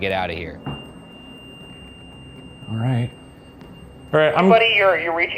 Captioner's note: REM-Pod beeping